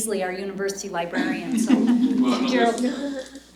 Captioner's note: laughter